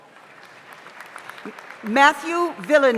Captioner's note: audience applauds